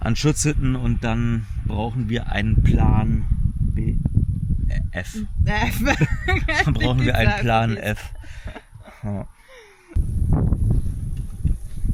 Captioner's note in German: gelächter